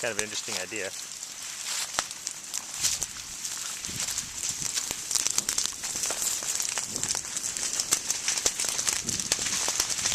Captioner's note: fire crackling